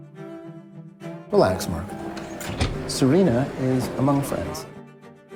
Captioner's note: voiceover